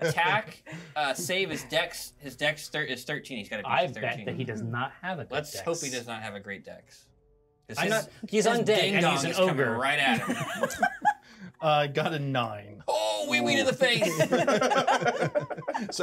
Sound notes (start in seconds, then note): 10.1 speaker laughs; 14.0 laughs